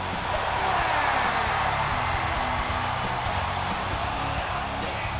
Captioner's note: audience cheering